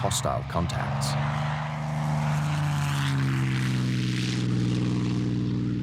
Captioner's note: plane engine roaring